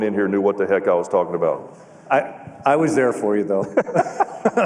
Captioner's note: laughter